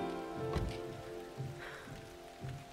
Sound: door closes

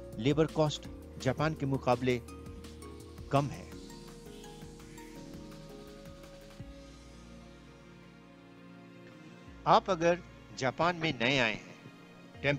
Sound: non-english speech

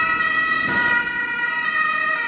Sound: sirens

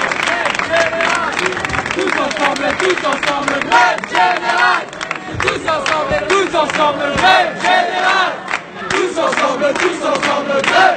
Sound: chanting

